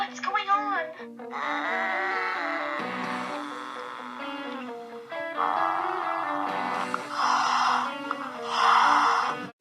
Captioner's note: growls and hisses